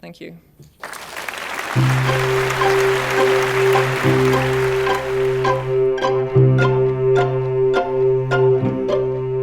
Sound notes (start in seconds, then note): 0.8 applause; 5.6 upbeat music